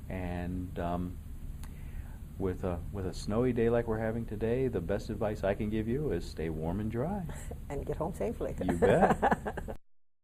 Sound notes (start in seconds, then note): 8.7 laughing